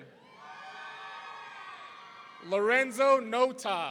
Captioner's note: audience cheering